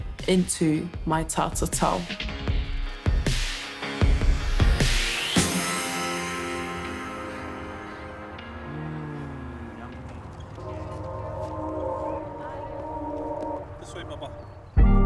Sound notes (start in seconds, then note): 3.4 tattoo gun whirs; 10.6 calm music